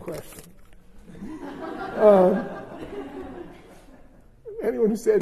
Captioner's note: laughter